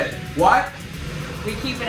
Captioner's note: shouting